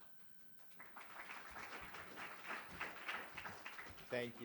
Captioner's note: students applauding